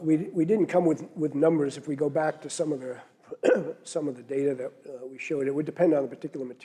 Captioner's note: cough